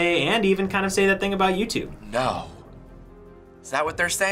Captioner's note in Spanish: sarcastico